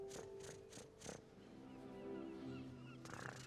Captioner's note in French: imitation de ronronnement